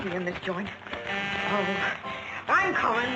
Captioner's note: buzzing